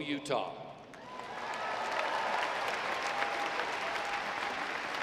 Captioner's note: audience applauding